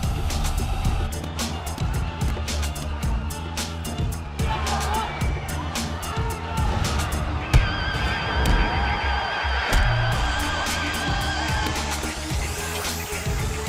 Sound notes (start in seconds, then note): 3.9 crowd cheering; 8.1 punches landing